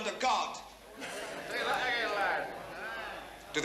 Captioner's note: crowd mutter in agreement